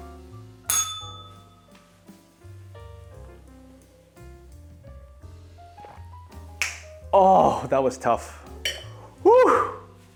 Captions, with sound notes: [bell rings] Oh, that was tough. Woo!